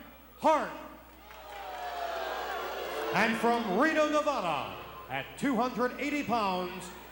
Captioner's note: applause